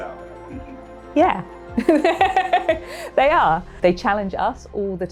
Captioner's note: laughs